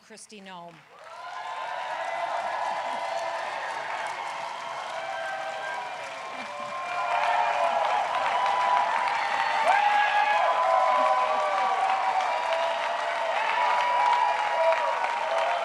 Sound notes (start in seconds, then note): 5.0 applause